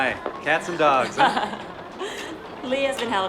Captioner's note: laughing